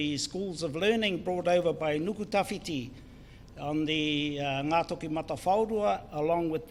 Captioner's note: foreign Language